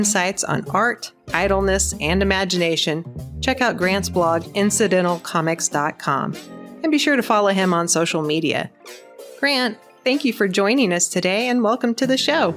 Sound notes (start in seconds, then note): none